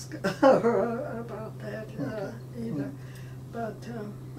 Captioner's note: laughing